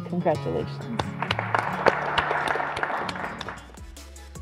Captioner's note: council Chamber Applause